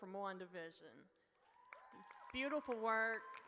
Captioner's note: audience cheers